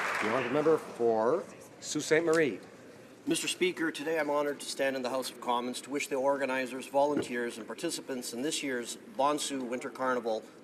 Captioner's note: applause